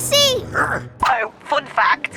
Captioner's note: Big Lizard grunts